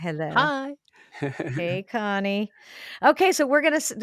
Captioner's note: laughs